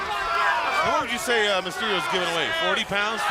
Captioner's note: crowd chatter